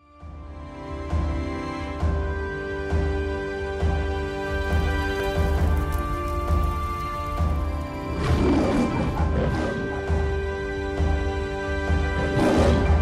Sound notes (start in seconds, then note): 0.2 dramatic music; 8.2 lion roars